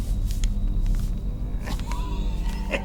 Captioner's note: coughing